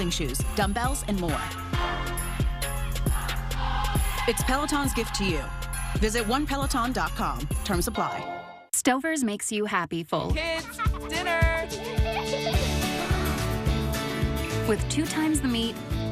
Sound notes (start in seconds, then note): 12.8 kid gasps